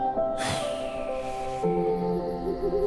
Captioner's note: exhales